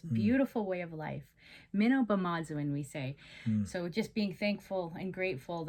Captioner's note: speaking Indigenous Language